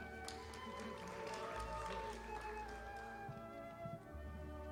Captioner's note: audience applauding